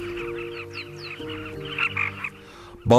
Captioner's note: chirps